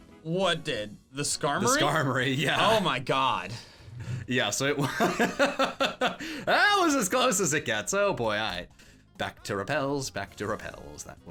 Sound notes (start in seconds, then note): 4.8 laughs